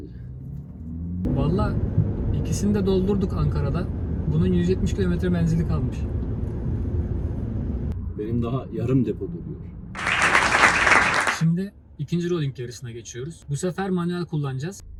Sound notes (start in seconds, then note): 9.9 claps